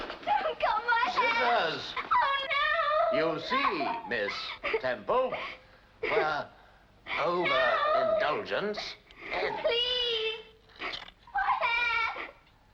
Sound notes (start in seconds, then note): 2.5 Jane cries out; 8.0 Jane whimpers